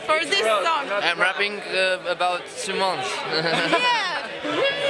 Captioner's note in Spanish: risas